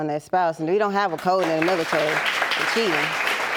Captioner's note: audience claps